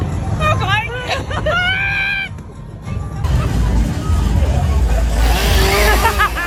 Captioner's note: whimpers; chainsaw whirring; laughing